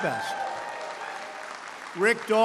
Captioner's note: applause